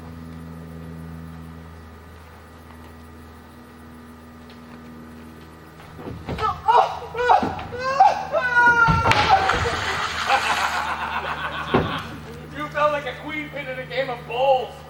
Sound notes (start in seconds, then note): 6.3 Robin screams; 9.0 splash; 11.4 laughs